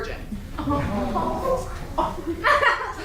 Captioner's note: audience awws; laughter recommences